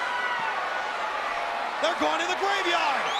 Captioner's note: crowd cheering